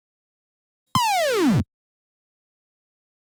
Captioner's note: video game blip